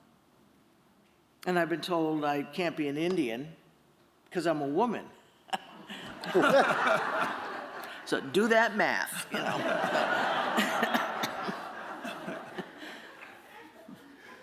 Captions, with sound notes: And I've been told I can't be an Indian because I'm a woman. [laughter] So do that math, you know. [laughter]